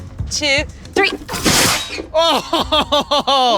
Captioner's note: whoosh of air; laughs